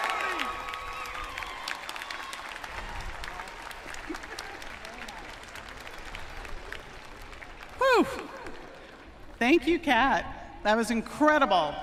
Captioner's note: cheering and applause